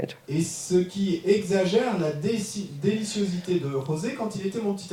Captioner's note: audience member speaks in French